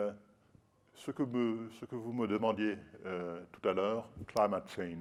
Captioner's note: speaking french